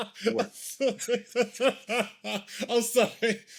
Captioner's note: laughing